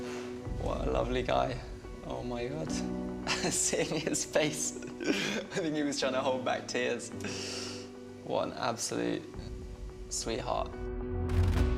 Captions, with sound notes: - What a lovely guy. Oh, my God. (laughing) Seeing his face... I think he was trying to hold back years. What an absolute... sweetheart.